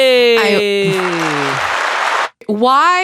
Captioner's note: applause